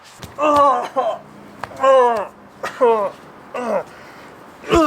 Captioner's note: groans in pain